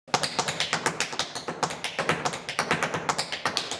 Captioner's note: tap dancing